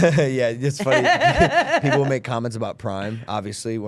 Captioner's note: laughing